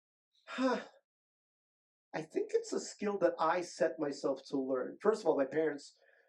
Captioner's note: sighs